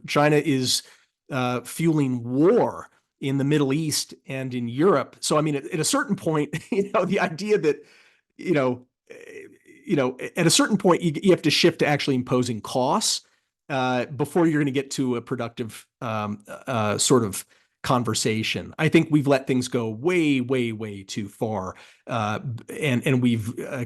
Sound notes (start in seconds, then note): 6.6 laugh